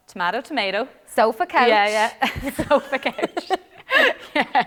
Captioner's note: laughter